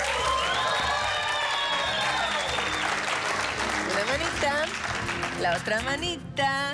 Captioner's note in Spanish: Aplausos; Gritos